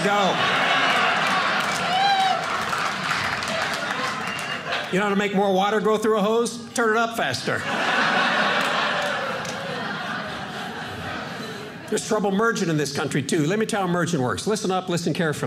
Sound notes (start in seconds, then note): 0.0 audience cheering; 7.5 audience laughing